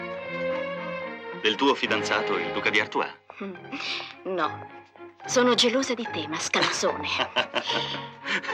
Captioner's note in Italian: risate